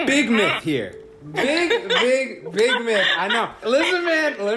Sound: laughs

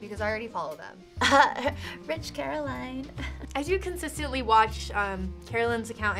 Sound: chuckles

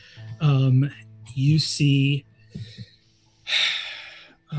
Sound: sighs

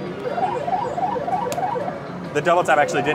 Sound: machine bleeps

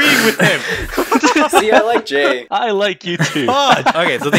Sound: laugh

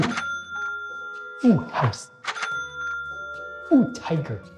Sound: cash register chimes

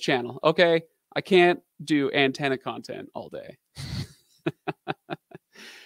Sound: laughing

